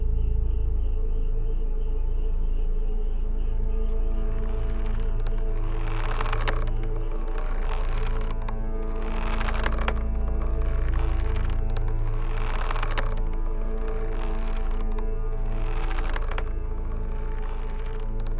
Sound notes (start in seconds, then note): 1.9 dramatic music; 1.9 rope creaking